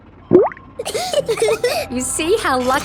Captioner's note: bubbles; laughing